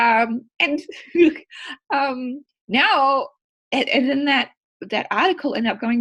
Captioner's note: chuckles